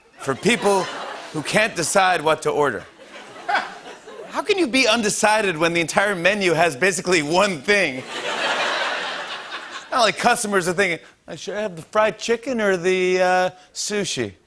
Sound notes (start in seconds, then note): 8.0 laughter